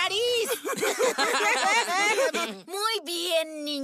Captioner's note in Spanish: Risas de pibes